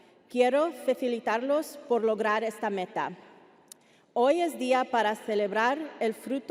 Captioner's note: speaking Spanish continues